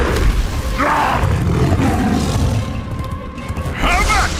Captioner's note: roars; grumbles